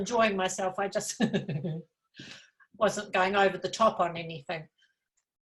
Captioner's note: laughs